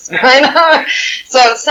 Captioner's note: laughing